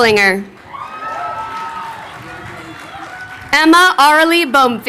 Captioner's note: crowd cheering